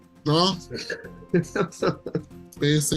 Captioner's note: laughs